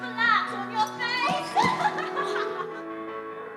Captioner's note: laughter